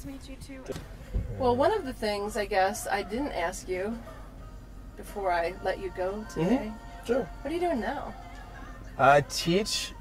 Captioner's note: mhmm